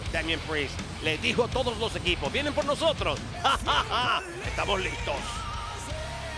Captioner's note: laugh